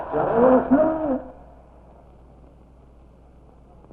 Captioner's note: speaks in Spanish